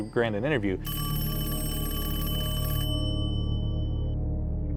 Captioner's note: phone rings; ominous music